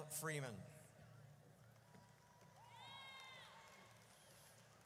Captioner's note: audience cheers